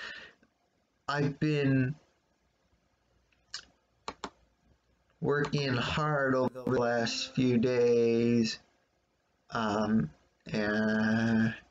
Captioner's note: click of computer's trackpad